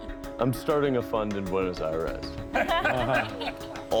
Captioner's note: laughter